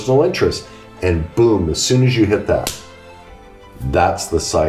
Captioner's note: slaps hands